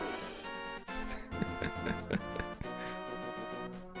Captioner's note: laughing